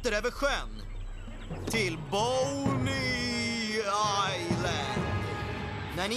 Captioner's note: spooky voice